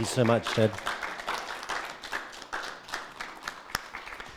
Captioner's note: audience clapping